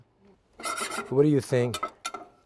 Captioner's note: pan scraping